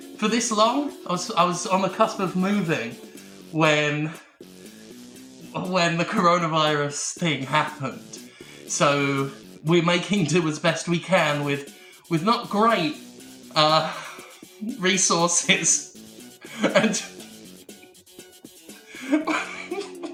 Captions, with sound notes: ..for this long? I was on the cusp of moving, when... When the Coronavirus thing happened. So.. we're making do as best we can with, with not great, uh... ..resources. (chuckle) And... (starts laughing)